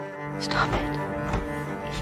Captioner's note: voiceover